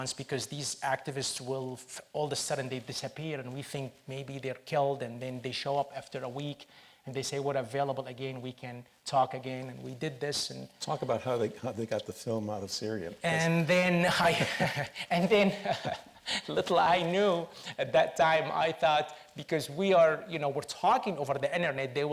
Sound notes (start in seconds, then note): 14.0 laughs